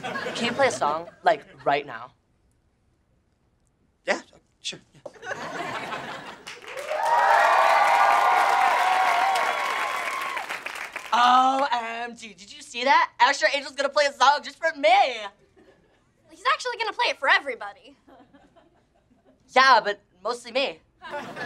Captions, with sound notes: Can you play a song, like right now? Yeah, sure. [audience cheering] O-M-G! Did you see that? Asher Angel is gonna play a song just for me! Well, he's actually going to play it for everybody. Yeah, but mostly me.